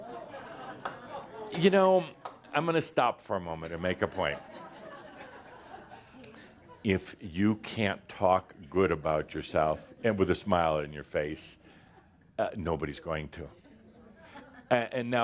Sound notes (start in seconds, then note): 0.0 a few chuckles, as Adamus pauses; 5.9 more chuckles